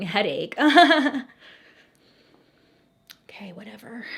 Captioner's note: laughing